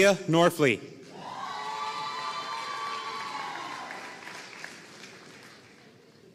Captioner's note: audience cheering and applauding